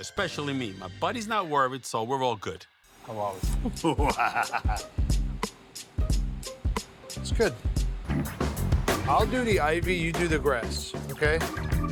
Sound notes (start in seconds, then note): 3.4 light upbeat music; 3.6 Buddy laughs